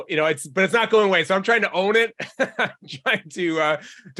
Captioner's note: laughs